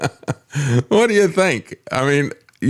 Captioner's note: laughs